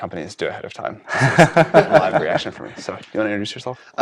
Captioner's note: laugh